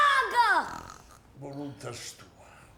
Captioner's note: shouting; snoring loudly; Don Vincenzo talking in sleep